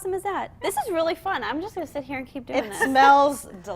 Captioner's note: laughter